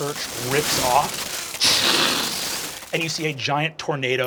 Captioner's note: crashing